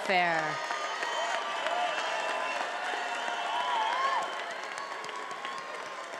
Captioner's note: attendees applauding and cheering